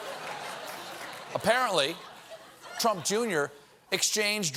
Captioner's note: laughter